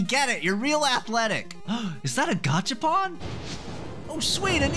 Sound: gasp

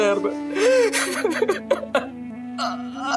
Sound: crying

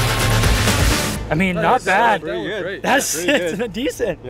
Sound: overlapping agreement

